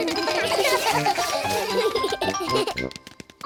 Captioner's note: all giggle